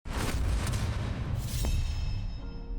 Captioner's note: whoosh